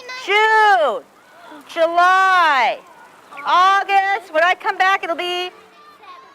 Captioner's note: voiceover